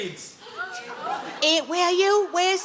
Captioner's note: audience gasp